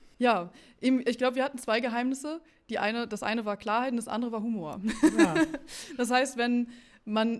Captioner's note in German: gelächter